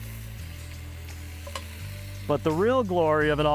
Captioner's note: meat sizzling